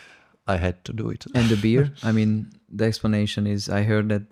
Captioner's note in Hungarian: szippant